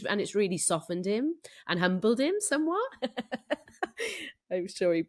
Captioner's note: laughs